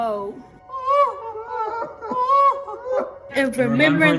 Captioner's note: people distantly sobbing